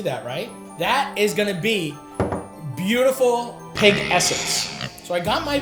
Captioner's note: jar thuds